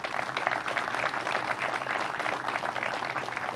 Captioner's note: crowd applauds